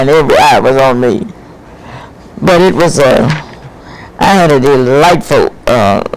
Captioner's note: laughs